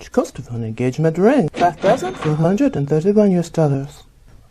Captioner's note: cash register sound; cash register sound accompanies each item on list as it's mentioned